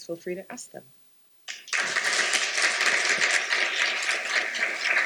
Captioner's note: applause